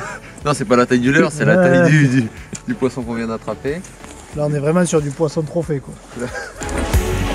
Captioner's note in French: rires